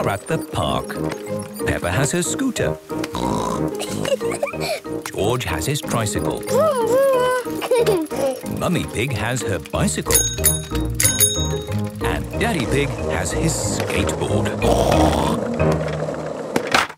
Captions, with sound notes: are at the park. Peppa has her scooter. (snorts, giggles) George has his tricycle. - Vroom! Vroom! (giggles) Mummy Pig has her bicycle. (bicycle bell dinging) And Daddy Pig has his skateboard. (snorts)